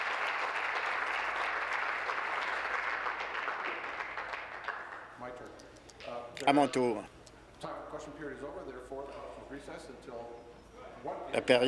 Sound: applause

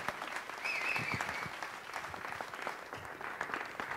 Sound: whistles

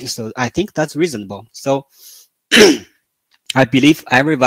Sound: 咳。。。。

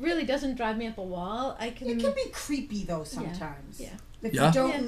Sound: voiceover

